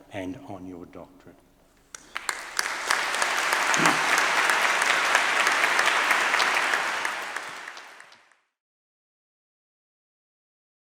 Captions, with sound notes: and on your doctorate. (audience applauding)